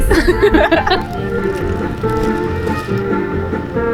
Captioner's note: laughing